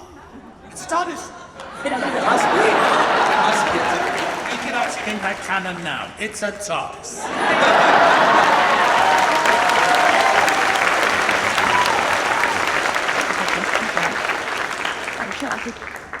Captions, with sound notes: - Oh, it's a TARDIS. (audience laughs) We can actually make that canon now. It's a TARDIS. (audience applauds and cheers)